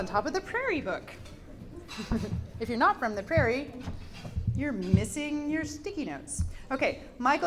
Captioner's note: giggles